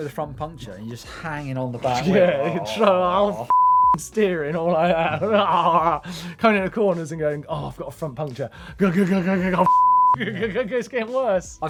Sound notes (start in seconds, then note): 3.5 beeps; 4.6 laughing; 9.6 beep